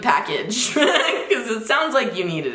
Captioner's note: laughing